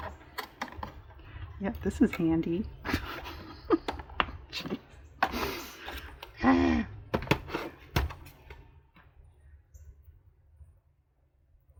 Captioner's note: laughs